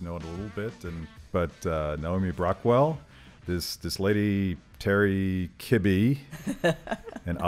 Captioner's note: laughs